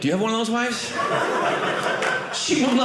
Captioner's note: audience laughing